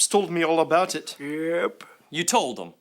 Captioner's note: pops